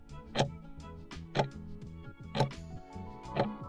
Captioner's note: timer ticking